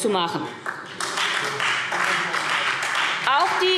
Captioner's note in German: Beifall SPD und Freie Demokraten